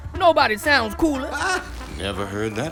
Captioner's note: laughs